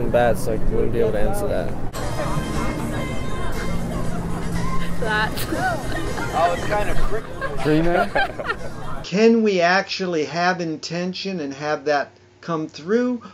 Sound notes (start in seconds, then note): 6.7 speaking away from mic; 8.2 people laughing softly